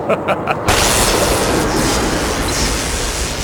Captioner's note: chuckle; lightning